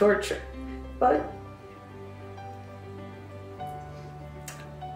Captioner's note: voice cracking